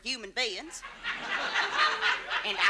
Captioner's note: audience laughs